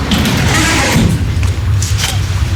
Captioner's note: door opening